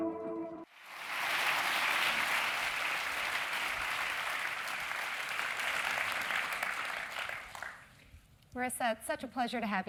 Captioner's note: applause